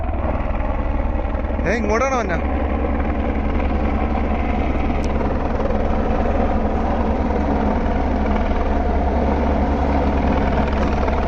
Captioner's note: helicopter approaching